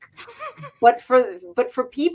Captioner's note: laugh